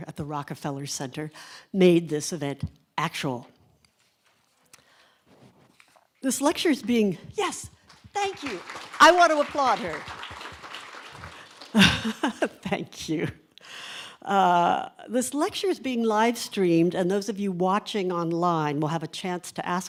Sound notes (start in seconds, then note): 10.2 audience applauds; 11.1 laughs